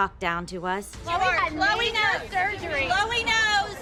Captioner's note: overlapping chatter